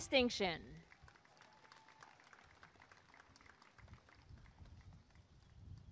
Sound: applause and cheering

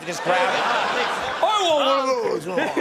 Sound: audience laughing

